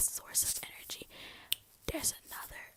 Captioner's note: finger snap